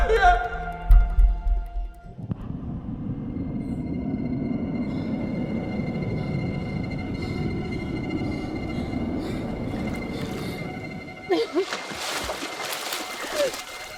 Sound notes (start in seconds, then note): 1.7 eerie atmospheric rumble; 11.2 water splashing